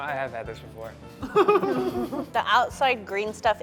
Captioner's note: laughing